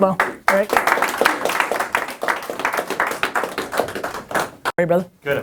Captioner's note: applause